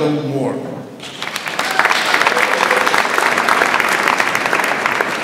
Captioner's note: audience applauds